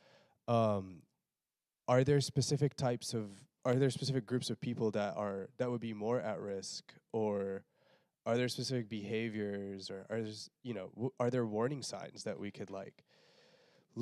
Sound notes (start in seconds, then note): none